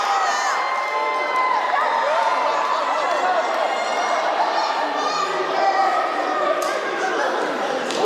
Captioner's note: applause